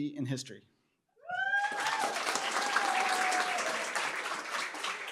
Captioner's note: cheering, applause